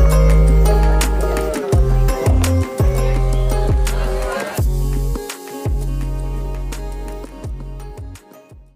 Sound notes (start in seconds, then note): 3.4 audience chattering; 4.8 chiming music